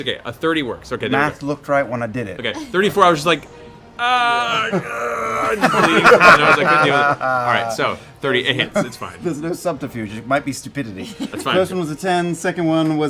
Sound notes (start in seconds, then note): 4.0 groaning